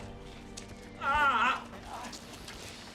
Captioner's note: groans